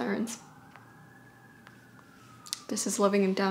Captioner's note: sirens wailing